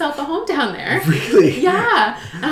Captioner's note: laughs